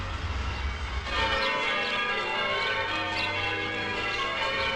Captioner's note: bells Continue Ringing